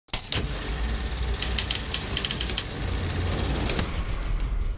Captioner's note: filmprojector rammelt